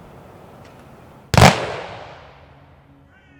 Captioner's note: gunshots